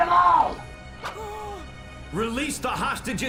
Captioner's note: gasps